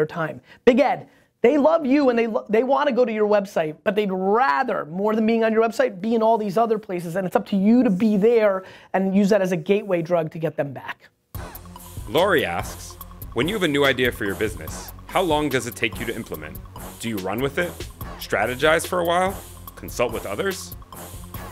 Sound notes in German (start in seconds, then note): 11.7 Fröhliche Musik; 12.4 Voice-over